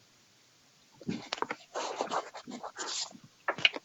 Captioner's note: papers shuffling